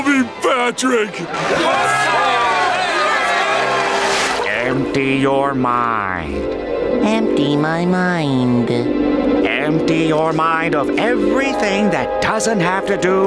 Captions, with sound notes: Oh, please! You can call me Patrick! [cheering] Empty your mind. Empty my mind. Empty your mind of everything